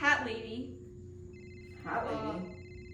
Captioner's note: phone ringing